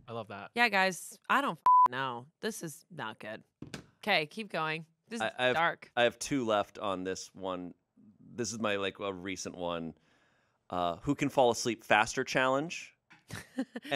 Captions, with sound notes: - I love that. - Yeah, guys, I don't (beep) know. This is not good. Okay, keep going. This is dark. - I have two left on this one. This is my like a recent one. Who can fall asleep faster challenge.